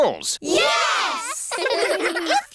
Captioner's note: giggling